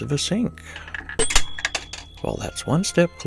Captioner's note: ♫ ding ♫